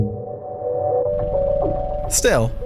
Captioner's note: helicopter blades whirring